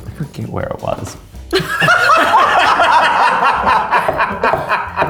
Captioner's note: all laughing